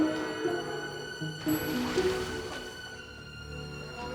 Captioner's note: splash; speaking Italian